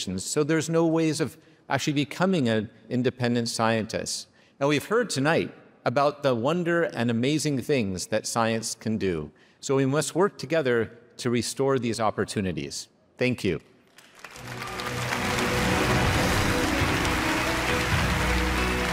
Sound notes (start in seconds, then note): 13.9 audience applauding; 16.3 dramatic music